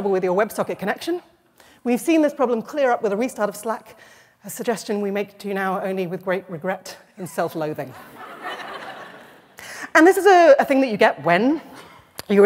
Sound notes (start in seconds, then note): 8.0 laughter